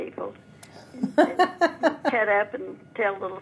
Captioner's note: laughing